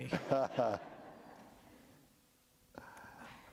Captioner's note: laughter